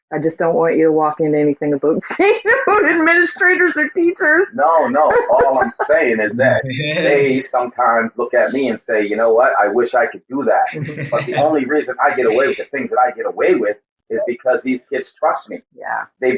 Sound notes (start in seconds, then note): 6.2 laughing